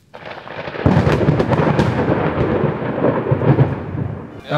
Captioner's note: thunder Crashes